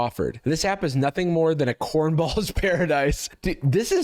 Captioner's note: laughing